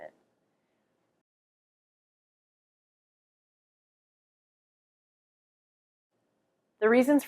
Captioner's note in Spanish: Silencio